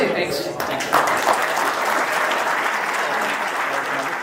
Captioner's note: audience applause